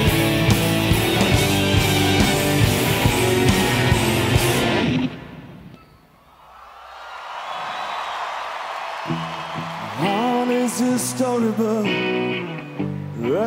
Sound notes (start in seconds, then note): 4.8 rock music stops abruptly; 6.1 audience cheers; 9.0 rock music begins